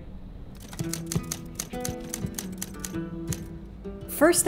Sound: typewriter clacks; period music

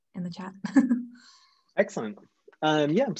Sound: chuckles

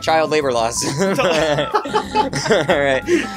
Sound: laughing

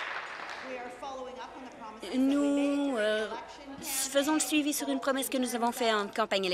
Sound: applause

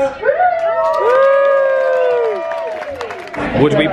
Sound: guests cheering

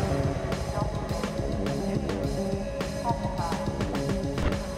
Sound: muffled announcement

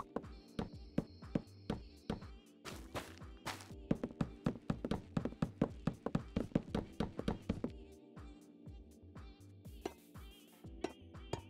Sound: block placing sounds

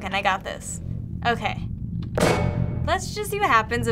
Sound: cube clangs

